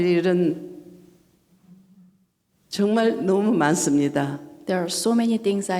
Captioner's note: speaking foreign language